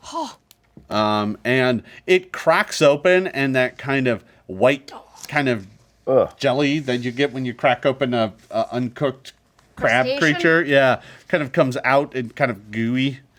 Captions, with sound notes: (Omelette sighs with worry) And it cracks open and that kind of white (groans of disgust) jelly that you get when you crack open an uncooked-- - Crustacean? - Crab creature? Kind of comes out, kind of gooey,